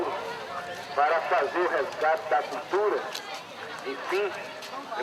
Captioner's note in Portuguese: Burburinho de feira